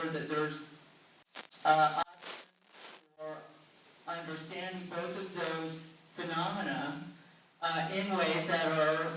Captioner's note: static